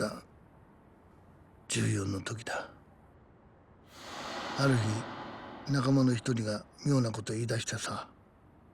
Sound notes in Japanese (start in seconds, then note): 3.1 鼻息